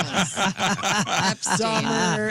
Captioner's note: laughter